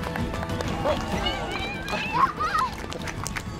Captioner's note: applause